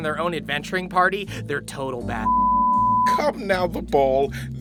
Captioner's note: beeping